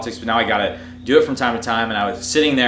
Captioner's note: none